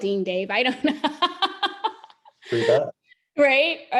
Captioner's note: laughs